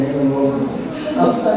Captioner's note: gasp